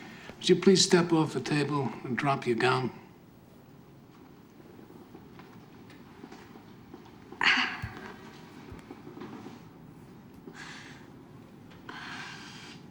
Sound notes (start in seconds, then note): 7.4 groans